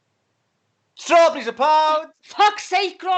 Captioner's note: in a cardiff accent